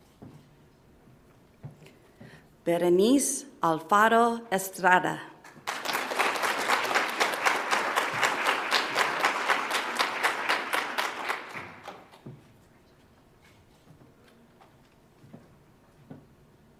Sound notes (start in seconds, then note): 5.4 audience applauds